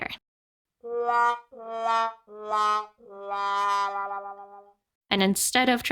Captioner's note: sad trumpet sound